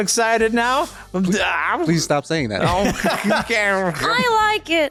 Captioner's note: laughter